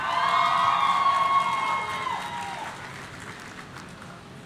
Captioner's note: audience cheering